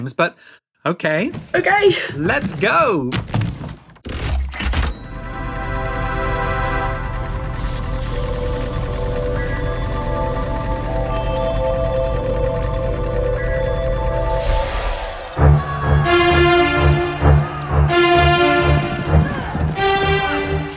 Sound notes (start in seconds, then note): 3.0 mechanical sounds. Time travel whoosh; 15.1 the sounds of war: shouting, horses galloping, swords clashing